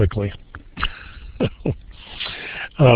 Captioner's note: chuckles